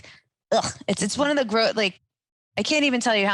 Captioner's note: gags